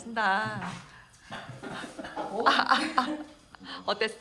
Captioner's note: coughs while imitating Russia haha